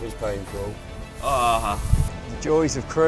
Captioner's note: moans